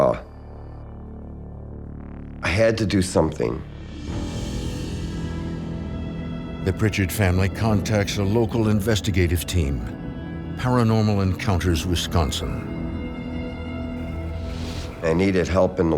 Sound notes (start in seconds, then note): none